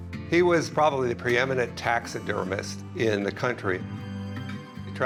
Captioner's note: none